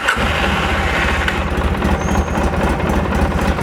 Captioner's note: revs motor